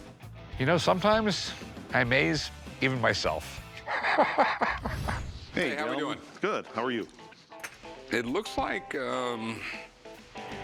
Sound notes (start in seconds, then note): 3.7 chuckles